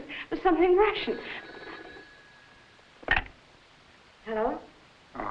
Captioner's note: phone ringing